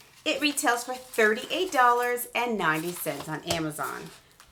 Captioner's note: none